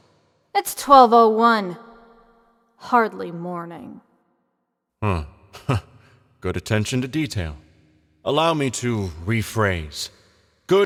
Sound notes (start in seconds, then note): 5.6 Cameron chuckles